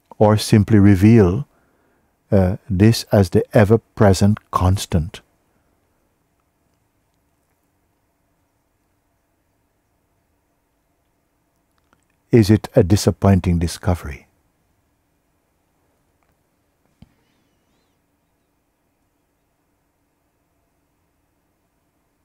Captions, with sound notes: or simply reveal This as the ever-present constant? Is it a disappointing discovery? [silence]